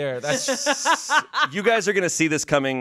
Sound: laughs

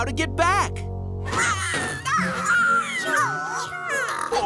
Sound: squeaking

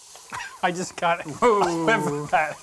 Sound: coughing

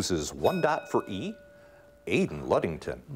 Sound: bell ringing

